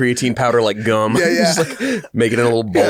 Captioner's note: both laugh